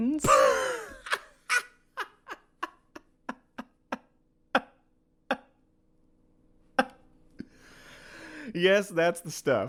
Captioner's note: bursts into laughter